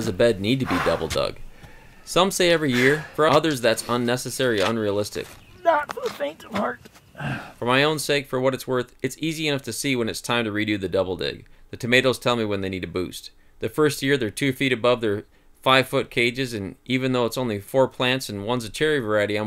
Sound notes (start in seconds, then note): 2.4 heavy breathing; 7.0 heavy breathing and grunt; 7.1 large sigh